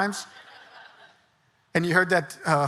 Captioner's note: audience laughing